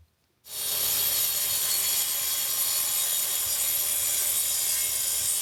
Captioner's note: electric saw whirring